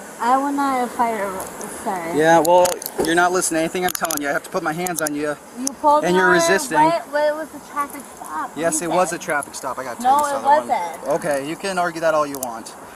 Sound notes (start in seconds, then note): 6.7 slurred speech